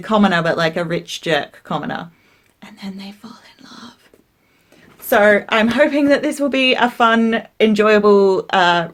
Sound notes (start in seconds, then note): 2.2 whiserping